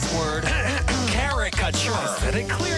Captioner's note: clears throat